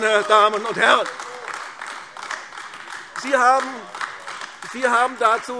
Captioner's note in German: Beifall AfD